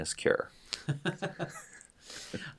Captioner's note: laughter